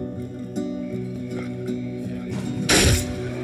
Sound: men chattering; loud thunking

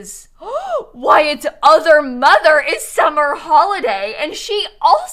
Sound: gasp

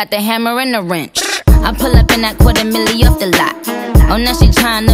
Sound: brrr

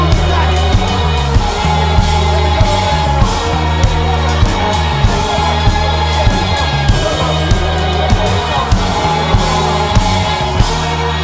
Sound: audience cheers

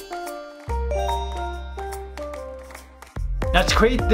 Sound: chime rings; bright music

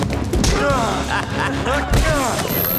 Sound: laughing

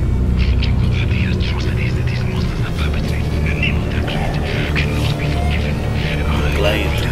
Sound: angry ranting on phone

